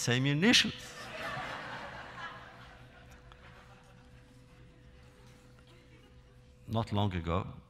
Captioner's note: laughter